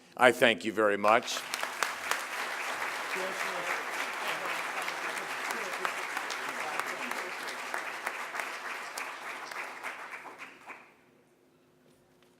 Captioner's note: applause